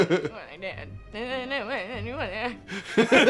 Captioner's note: incoherent crying speech